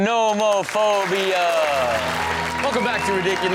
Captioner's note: audience cheers